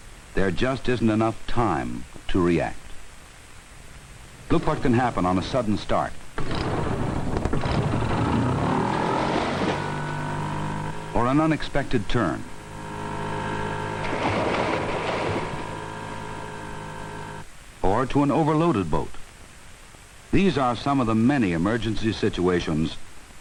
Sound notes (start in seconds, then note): 6.4 motor starting; 8.3 splashing; 13.0 splashing